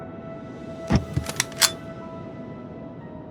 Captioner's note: compartment opens, rifle chambers